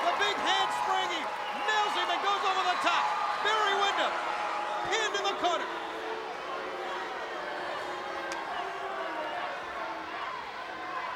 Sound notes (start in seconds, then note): 6.6 crowd yelling